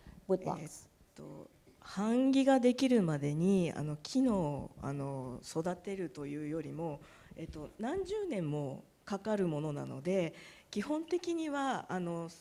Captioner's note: speaking japanese